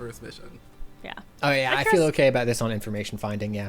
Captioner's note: pat